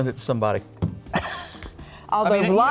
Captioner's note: laughs